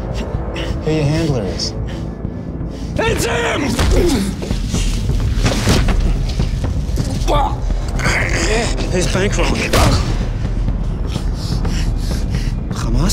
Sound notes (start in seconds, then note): 8.4 strangled noises; 10.1 drum beat